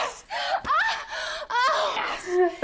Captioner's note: screaming